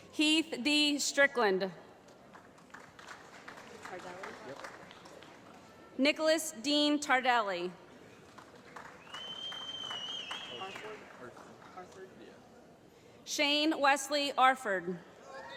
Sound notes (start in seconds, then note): 2.2 applause; 8.9 whistling